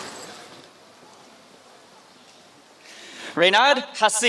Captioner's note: applause